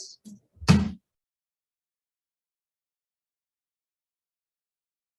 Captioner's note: gavel bangs on table